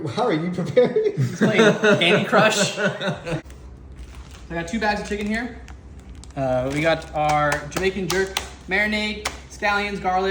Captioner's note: laughs